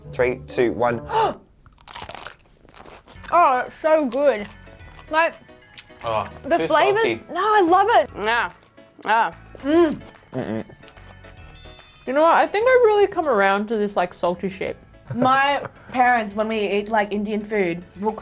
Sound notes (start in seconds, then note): 1.2 gasping; 1.7 chomping loudly; 9.4 munching loudly